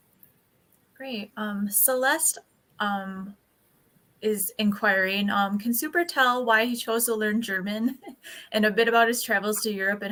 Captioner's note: laughs